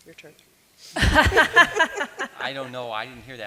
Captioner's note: chuckles